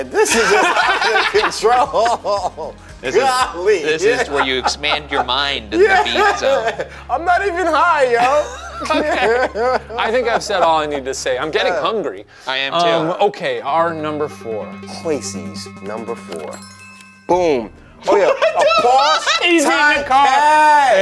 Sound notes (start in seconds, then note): 2.2 all laughing; 7.1 laughing; 18.0 laughing